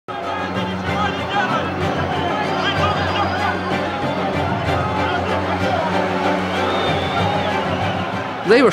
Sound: shouting & music

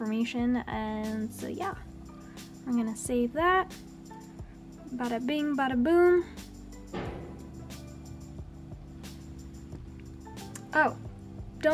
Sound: random boom in the background

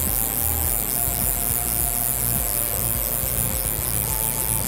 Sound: reel zipping

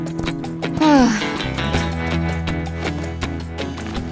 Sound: sighs

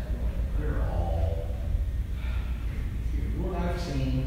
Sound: heavy sigh

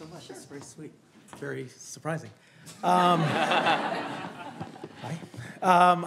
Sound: all laughing

